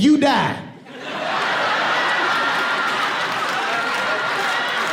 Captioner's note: audience whooping and applauding